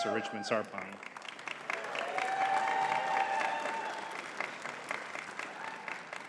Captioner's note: audience cheering and clapping